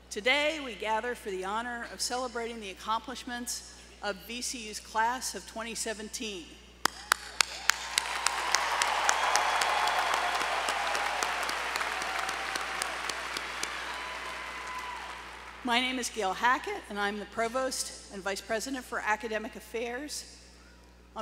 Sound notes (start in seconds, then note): 6.8 applause